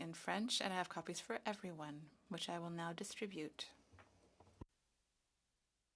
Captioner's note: speaking French